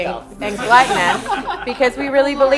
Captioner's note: laughs